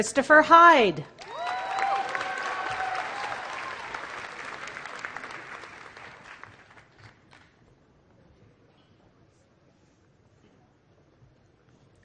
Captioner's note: applause